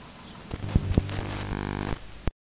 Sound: static noise

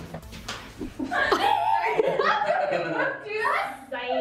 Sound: hands clap; everyone laughs

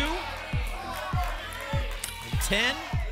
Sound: audience shouting numbers

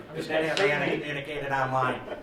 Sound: laughter

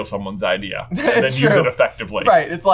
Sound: laughs

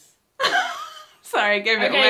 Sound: laughs

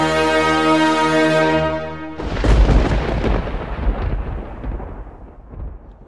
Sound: thunder rumbling

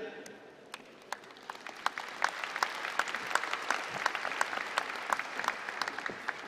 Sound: applause

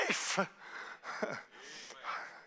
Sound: preacher laughing

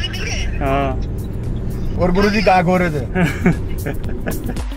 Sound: laughs

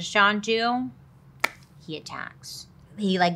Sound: claps hands

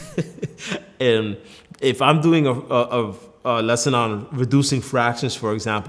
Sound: laughs

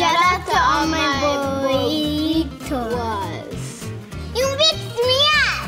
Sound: foreign language

